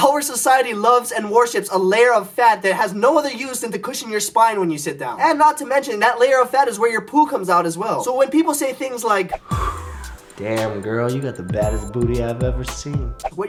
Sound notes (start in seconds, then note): 9.3 exhales